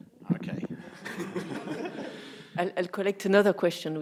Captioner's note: everyone laughing